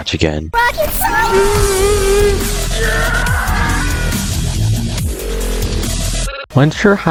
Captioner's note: rocket science sound effects